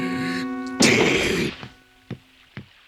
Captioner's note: growls